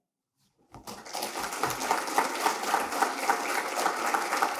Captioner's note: audience applauding